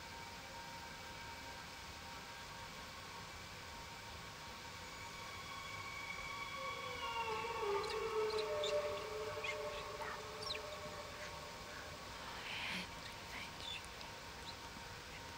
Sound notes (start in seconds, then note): 1.8 eerie foreboding music; 10.2 voice whispering